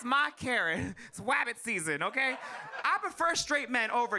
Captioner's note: audience laughs